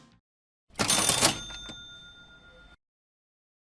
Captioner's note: cash Register Sound